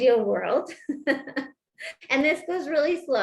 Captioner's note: laughter